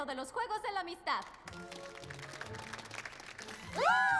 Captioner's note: applause